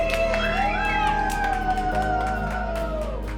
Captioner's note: cheering